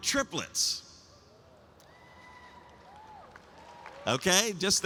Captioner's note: cheering